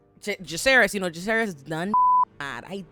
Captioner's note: beep